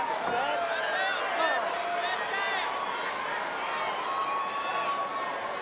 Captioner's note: audience chattering